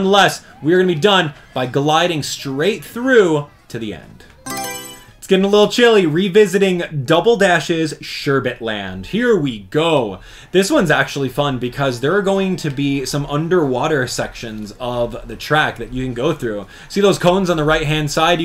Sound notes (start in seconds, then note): 4.4 Mario Selection Sound